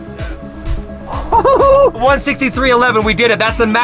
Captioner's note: laughs